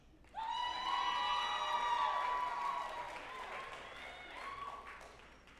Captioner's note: group applauding and cheering